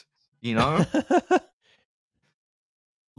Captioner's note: laughs